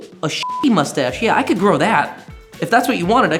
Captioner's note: beep